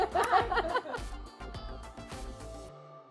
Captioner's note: laughs